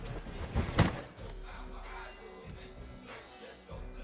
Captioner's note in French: bruit de sac